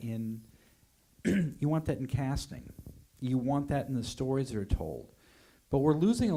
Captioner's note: coughs